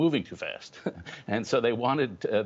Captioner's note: laughter